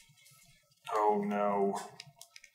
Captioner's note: none